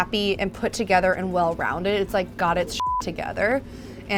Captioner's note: beep